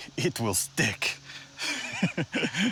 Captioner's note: laughs